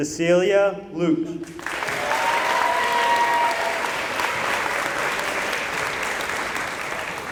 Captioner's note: applause